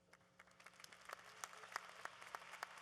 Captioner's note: applause